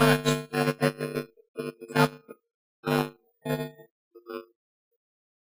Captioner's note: audio distorts